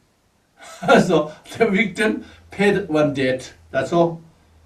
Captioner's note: laughs